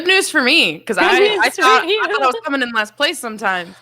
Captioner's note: laughs